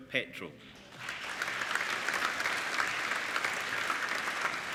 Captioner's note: applauding